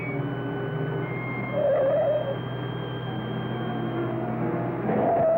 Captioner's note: tires squealing